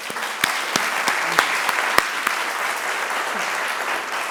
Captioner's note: audience applauding